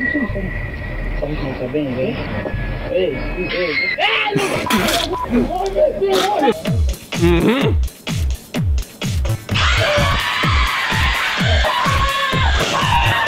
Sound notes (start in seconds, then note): 3.4 scream; 4.3 spit; 9.5 scream